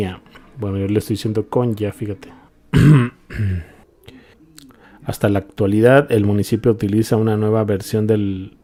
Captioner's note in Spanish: carraspeo